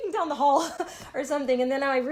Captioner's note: laughter